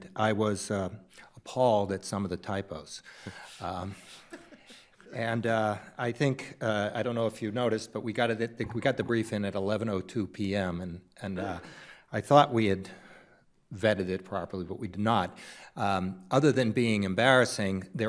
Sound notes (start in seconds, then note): 4.0 participants laughing